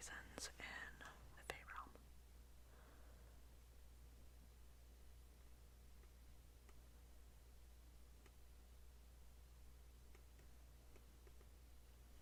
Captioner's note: more writing sounds